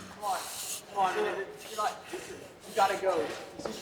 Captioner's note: people chattering indistinctly